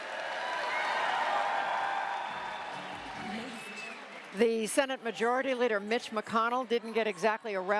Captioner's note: cheering and applause